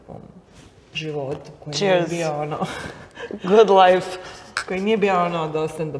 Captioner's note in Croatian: smijeh